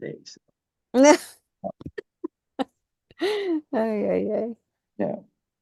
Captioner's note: laughs